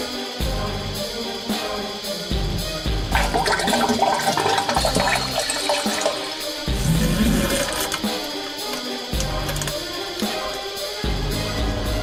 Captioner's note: insert gross diarrhoea adjacent noises